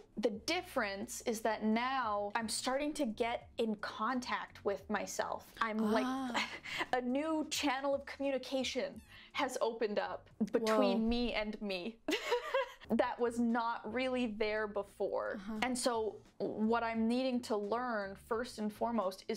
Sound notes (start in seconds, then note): 12.2 laughs